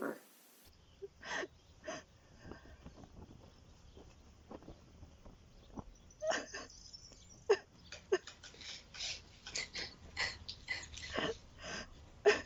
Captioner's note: sobbing